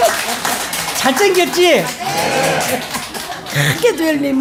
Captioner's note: laughter